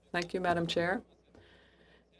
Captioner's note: speaking French